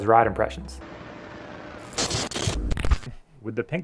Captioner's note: static